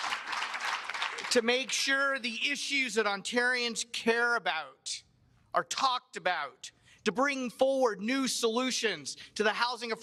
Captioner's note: cheers and applause